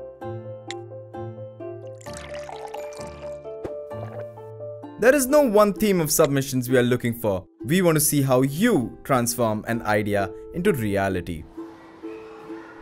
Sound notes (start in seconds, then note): 1.9 pouring sounds; 3.5 drinking sound